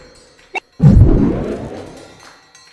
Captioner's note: pulse sound